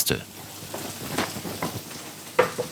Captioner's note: sizzling